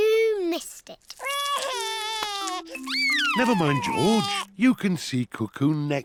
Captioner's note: sobs